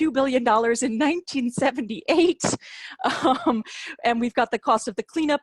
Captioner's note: laughter